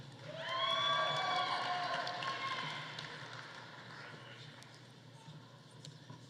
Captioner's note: audience applauding; audience cheering